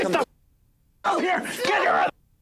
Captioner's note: muted